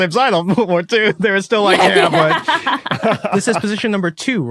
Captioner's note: laugh